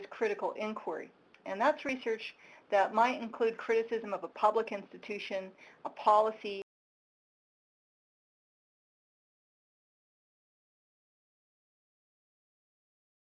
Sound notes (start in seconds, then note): 7.6 audio cuts out